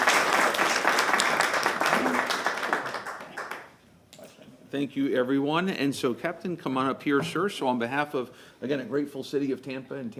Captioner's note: applause